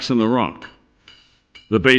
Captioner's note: hammer clanging